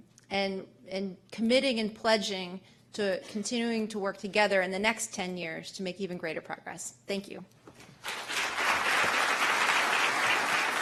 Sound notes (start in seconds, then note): 8.0 applause